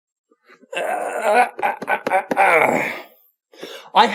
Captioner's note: grunting